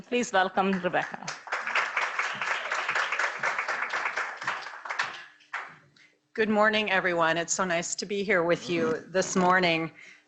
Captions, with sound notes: Please welcome Rebecca. (audience clapping) - Good morning, everyone. It's so nice to be here with you this morning.